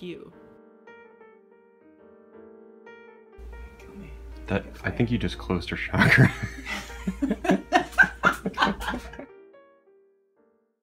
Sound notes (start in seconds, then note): 0.3 jazzy piano music; 6.0 everyone laughing